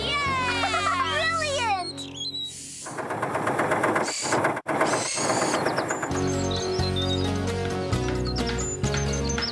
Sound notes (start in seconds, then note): 2.8 engine Running; 4.8 birds Chirping